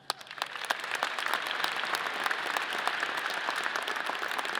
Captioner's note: audience applause